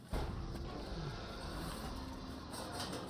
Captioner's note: roar